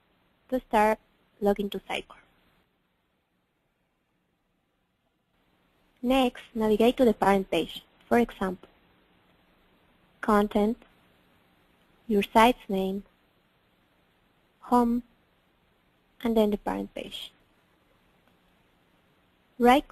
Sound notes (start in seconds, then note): 3.5 pause